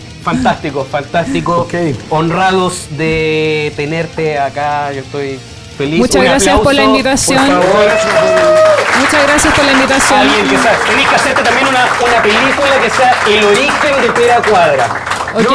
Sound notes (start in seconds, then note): 7.9 applauses and cheers